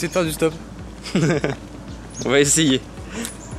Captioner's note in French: rire